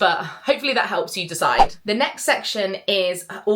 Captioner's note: screen fwipping